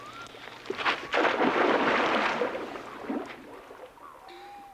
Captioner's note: water splashing